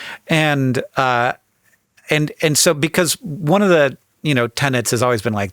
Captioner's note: none